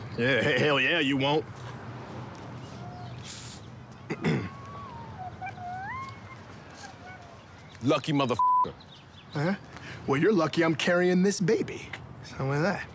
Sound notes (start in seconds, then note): 4.0 clears throat